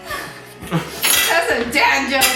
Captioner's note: laughing